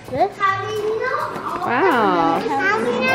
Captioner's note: kids talking